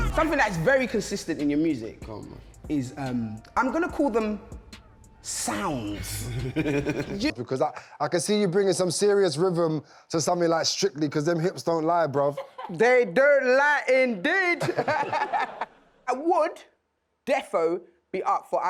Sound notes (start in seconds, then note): 6.0 laughing; 14.6 audience laughing